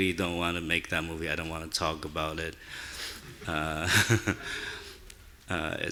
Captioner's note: laughing